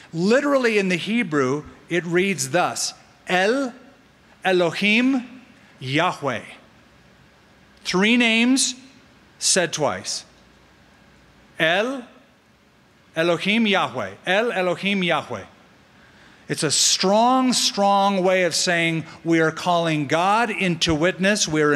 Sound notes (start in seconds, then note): 5.4 speaking hebrew; 11.7 speaking hebrew